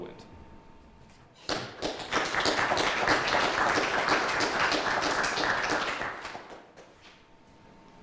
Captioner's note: clapping